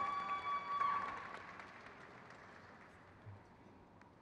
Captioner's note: crowd cheers